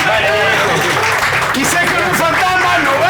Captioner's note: applause